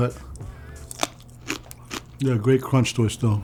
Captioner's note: crunching